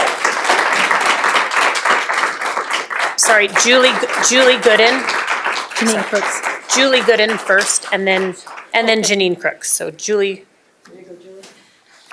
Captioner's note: applause